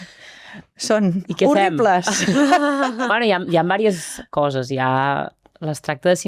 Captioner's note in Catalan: rialles